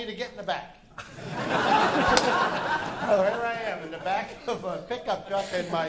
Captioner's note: laughter